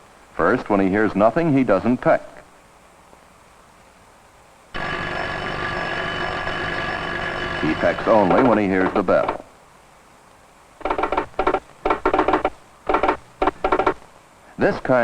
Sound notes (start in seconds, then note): 4.7 doorbell rings; 10.8 pecking